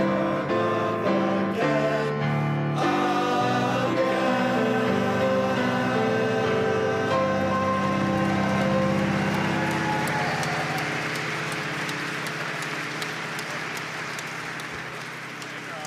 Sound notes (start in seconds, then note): 8.5 audience applauding